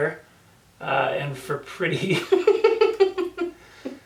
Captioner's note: laughs